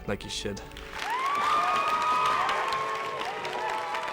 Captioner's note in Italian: folla esulta